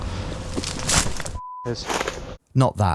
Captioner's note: beep